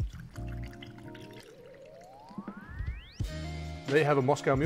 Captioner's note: pouring